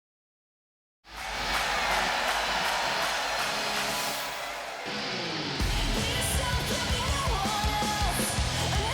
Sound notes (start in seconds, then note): 1.0 crowd cheers; 1.2 upbeat rock music